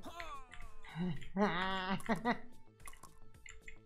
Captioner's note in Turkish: gülme